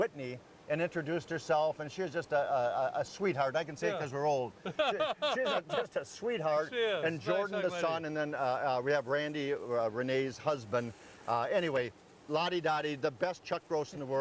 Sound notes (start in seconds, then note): 4.6 laughing